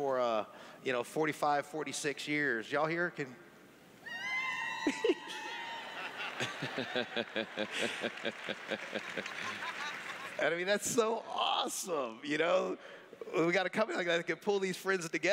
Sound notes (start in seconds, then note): 4.1 cheers; 4.8 laughing